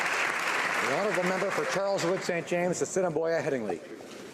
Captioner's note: applause